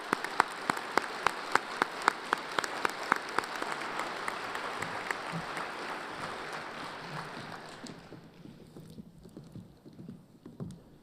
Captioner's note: applause